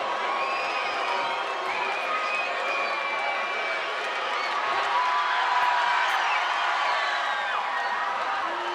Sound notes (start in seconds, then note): 0.0 crowd cheering; 0.1 crowd whistling